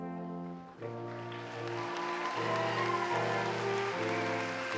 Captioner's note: cheering and applause